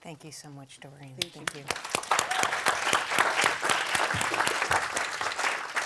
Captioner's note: audience applauds